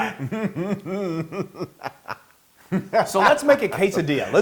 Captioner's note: laugh